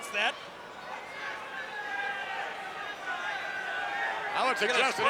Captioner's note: crowd yelling